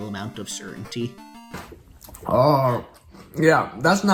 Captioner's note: disgusted groan